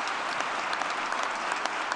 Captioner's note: applause